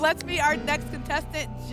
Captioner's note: none